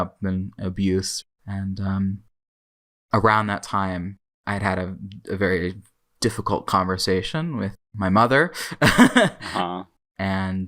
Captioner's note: laughs